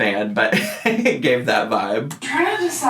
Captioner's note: laughing